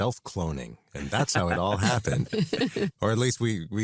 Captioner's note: laugh